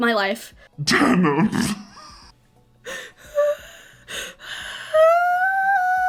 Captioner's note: wheezes